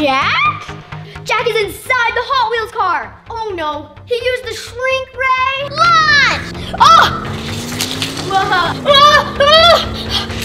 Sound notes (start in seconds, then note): 6.6 screaming